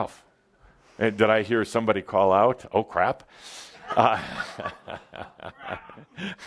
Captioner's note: laughter and Adamus chuckles